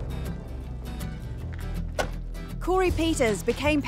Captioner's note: car door closes